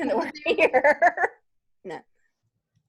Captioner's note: laughs